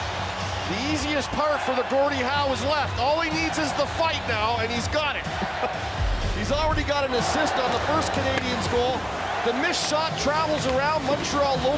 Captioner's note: horn; cheering